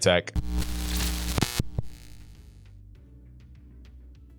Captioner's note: static crackling